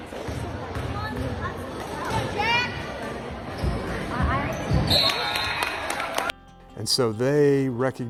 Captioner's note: applause